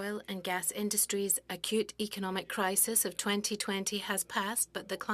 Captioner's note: speaking French